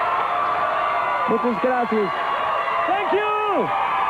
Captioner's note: applause